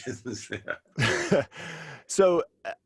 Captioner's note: chuckling